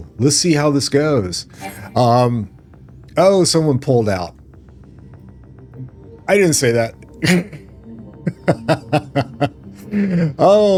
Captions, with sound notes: Let's see how this goes. Um, oh, someone pulled out. I didn't say that. [Laughter] Oh,